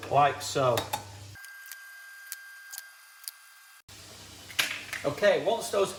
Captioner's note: video tape speeding